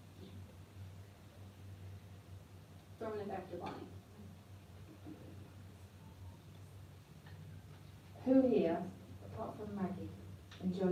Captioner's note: interference